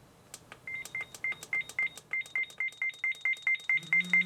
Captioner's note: beeping; buzzing sound